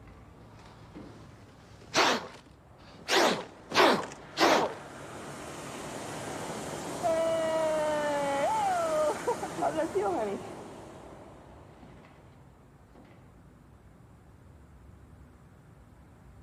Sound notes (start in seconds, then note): 1.9 blows; 5.3 wind whooshing; 7.7 laughs